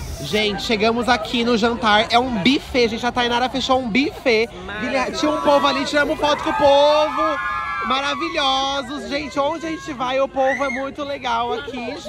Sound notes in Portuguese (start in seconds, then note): 6.4 gritos